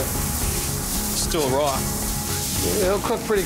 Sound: food sizzling

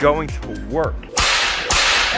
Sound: whip lashing

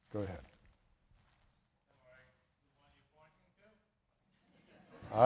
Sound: laughter

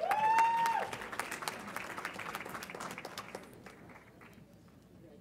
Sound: audience applauds and cheers

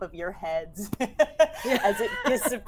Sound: players laughing

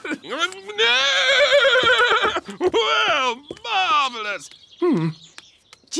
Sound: laughs; whinnies

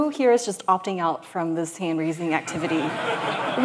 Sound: laughter

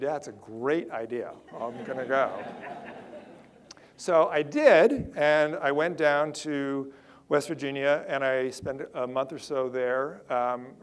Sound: audience laughter

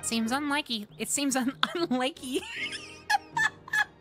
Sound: laughter; wheeze

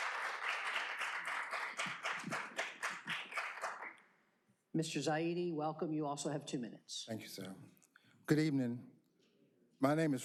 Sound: applause

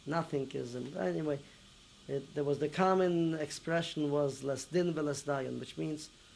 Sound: non-english

